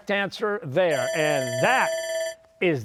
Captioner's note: bell ringing